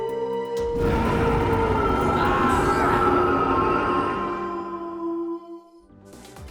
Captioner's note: Jessa howls; Brax roars